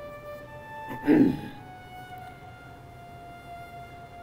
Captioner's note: clearing throat